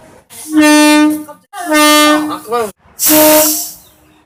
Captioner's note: air Horn; air Horn